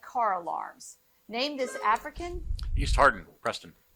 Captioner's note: buzzer buzzing